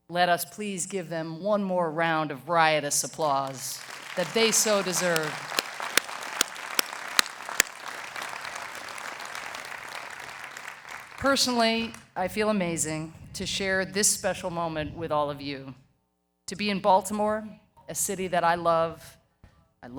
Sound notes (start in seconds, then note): 7.7 audience applauding